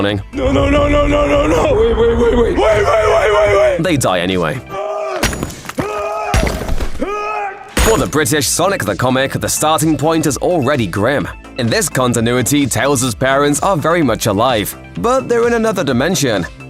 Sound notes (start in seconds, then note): 4.8 screams and smashes a brick wall with a hammer